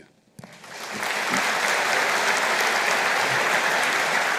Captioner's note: audience applauding